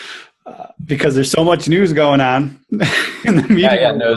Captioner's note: laughs